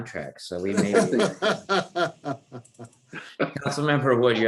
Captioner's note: laughs